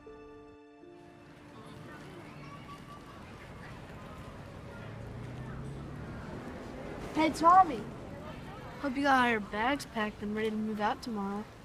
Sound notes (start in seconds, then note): 1.1 kids chattering